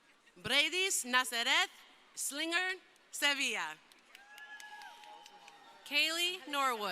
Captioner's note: crowd cheering